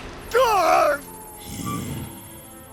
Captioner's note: Godfree grunts in pain; Kuradeel groans with pleasure